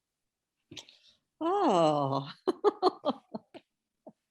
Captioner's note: laughs